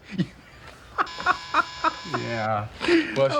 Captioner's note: doorbell rings